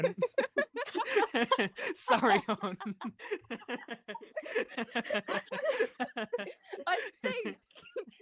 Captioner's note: laughter